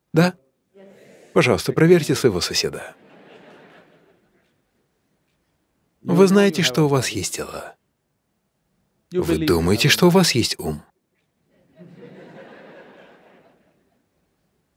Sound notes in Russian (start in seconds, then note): 2.9 Смех; 11.5 Смех